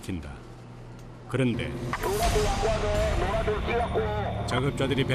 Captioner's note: sudden alarm in the morning